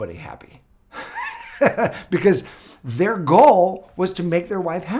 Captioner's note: laughs